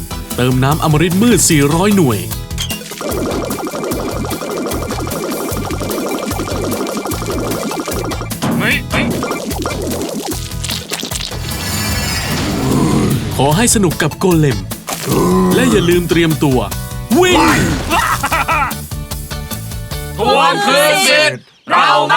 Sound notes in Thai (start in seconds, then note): 8.4 เสียงทุบท่อ